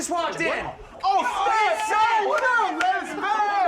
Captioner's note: all Group Members Exclaiming